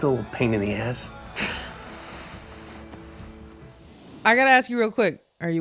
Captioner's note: chuckles